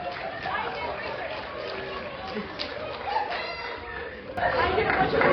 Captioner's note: laughter with some screams